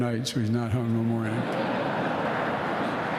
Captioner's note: laughter